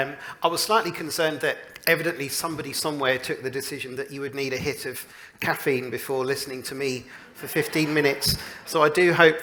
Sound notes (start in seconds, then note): 7.2 laughter